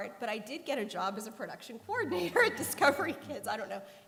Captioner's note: laughter